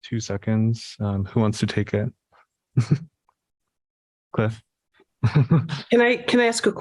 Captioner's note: laughter